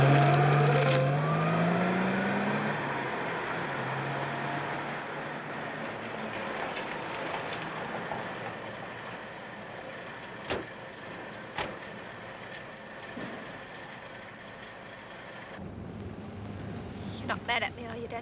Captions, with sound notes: [car revving] [car rumbling] [car doors thudding] You're not mad at me are you, Danny?